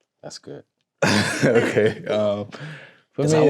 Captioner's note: laughs